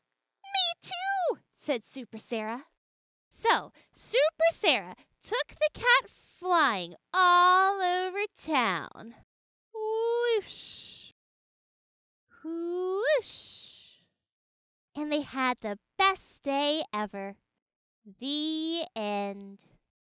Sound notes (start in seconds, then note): 0.6 gasp